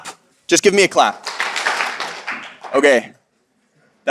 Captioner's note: audience claps